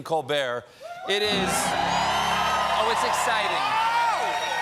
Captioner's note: cheers and applause